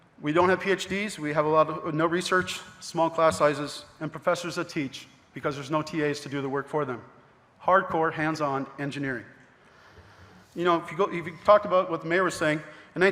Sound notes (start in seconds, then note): none